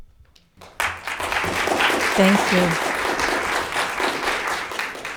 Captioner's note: audience clapping